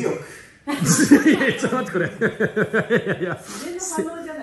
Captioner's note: laughs